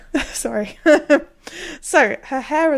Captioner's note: laughing